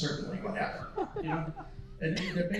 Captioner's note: laughing